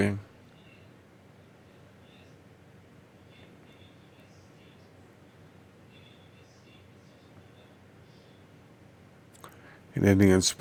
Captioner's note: silence